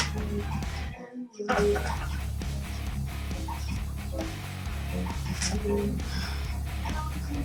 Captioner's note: sigh